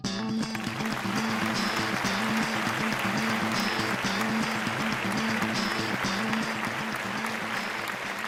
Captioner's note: applause